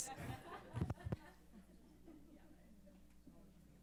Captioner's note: laughs